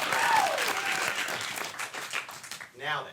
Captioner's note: audience applauds